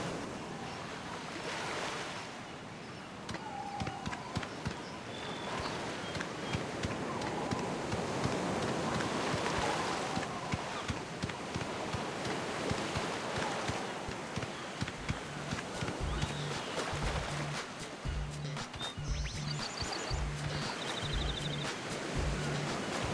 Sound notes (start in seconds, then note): 15.5 steps